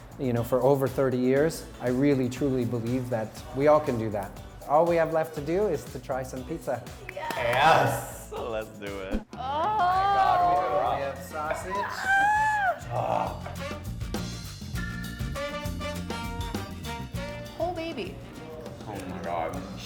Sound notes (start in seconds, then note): 11.5 both shriek in excitement; 13.6 calm music